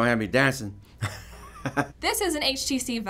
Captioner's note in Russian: смеётся